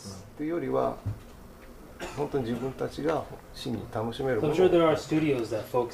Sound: speaks in Japanese

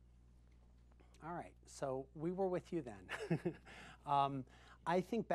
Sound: chuckles

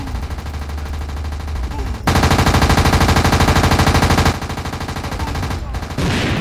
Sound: gunfire and explosions

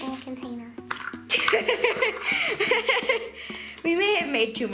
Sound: laughing

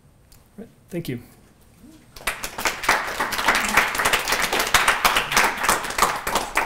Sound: applause

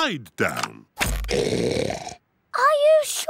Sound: oinks loudly

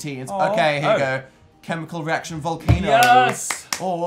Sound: claps

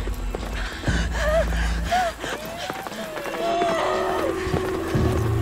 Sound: woman gasping

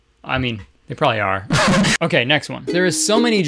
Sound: laughs

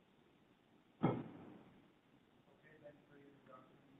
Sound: faint voice

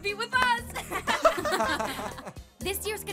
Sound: laughter

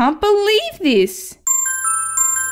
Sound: ding!

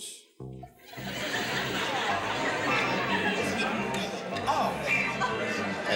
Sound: think music; laughter

